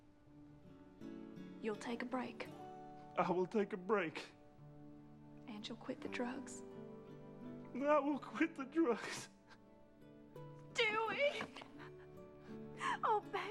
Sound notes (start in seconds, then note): 7.7 sobbing